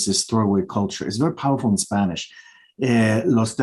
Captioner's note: speaking Spanish